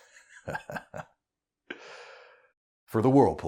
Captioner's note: Whirly chuckles